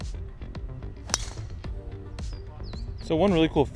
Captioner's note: man hits golf ball